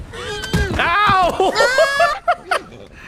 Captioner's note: laughs